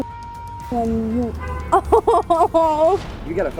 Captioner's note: laughter